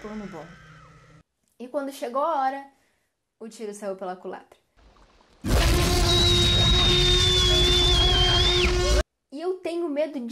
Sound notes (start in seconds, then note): 4.7 dinosaur roaring; 4.7 screaming